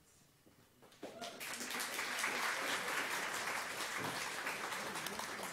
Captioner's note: audience applause